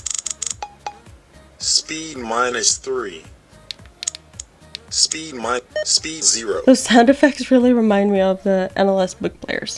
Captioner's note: beep, beep; beep beep